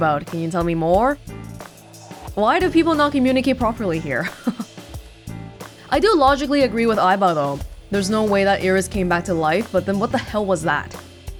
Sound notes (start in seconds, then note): 4.2 chuckles